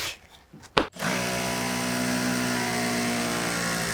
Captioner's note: drill drilling